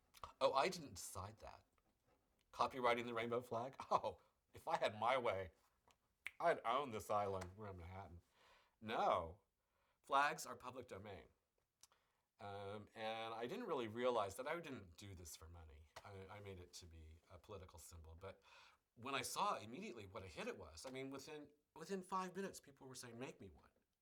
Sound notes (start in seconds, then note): 4.1 laughs; 6.2 snaps fingers